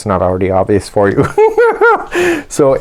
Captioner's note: BIG giggle